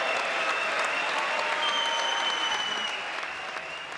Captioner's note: applause; cheering